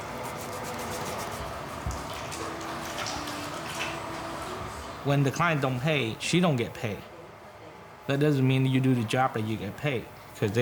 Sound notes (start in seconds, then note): 3.9 water splashing